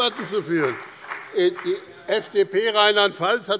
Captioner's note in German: Beifall bei dem BÜNDNIS 90/DIE GRÜNEN und der CDU